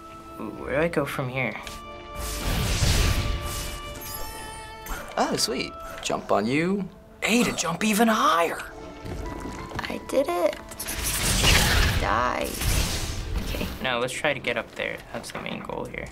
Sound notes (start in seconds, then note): 3.9 in game: chime